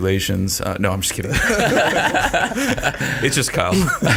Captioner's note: all chuckle